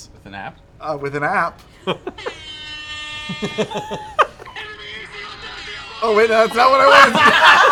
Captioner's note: airhorn